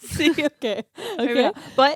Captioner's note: giggling